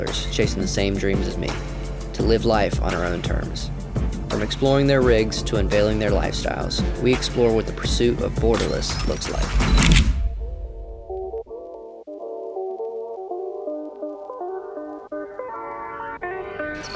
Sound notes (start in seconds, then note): 9.0 dramatic music; 9.2 camera shutter clicking; 11.1 electric guitar music